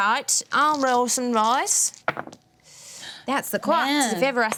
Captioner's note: dice clatter